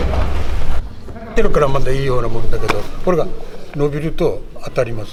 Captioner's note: speaking Japanese